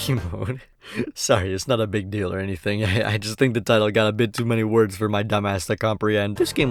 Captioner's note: chuckles; inhales